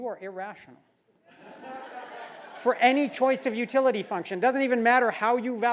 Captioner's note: laugh